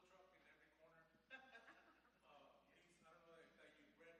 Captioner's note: audience laughs